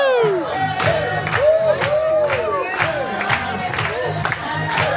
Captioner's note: crowd clapping